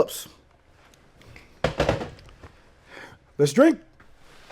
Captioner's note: phone receiver thuds